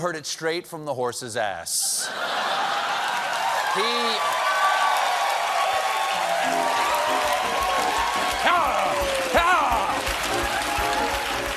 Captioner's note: laughter; cheers and applause